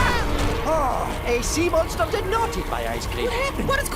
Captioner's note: all screaming